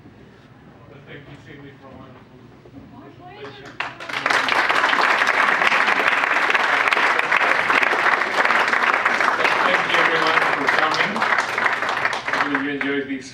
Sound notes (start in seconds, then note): 4.6 audience applauds